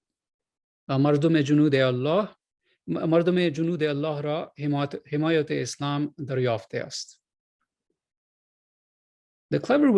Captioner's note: non-english speech